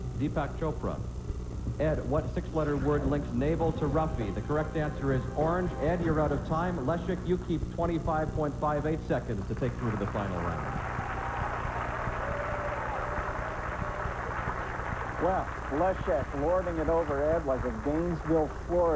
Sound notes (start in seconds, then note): 13.1 cheers and applause